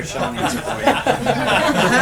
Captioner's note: laughter